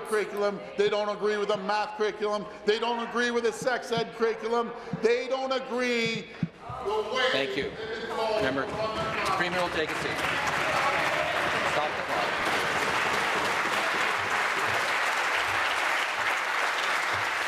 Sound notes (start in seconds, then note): 11.8 voice trailing; 15.6 applause